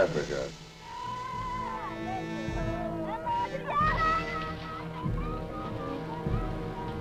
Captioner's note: somber orchestral music; villagers shouting